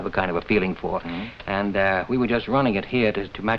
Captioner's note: Ed hums agreeingly